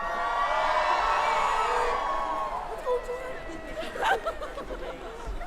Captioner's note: applause